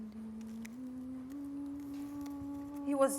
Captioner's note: humming